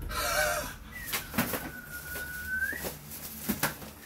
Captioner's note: whistle